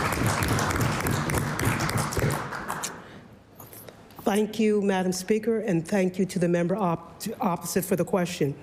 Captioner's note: applause